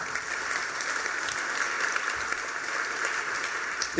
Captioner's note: applause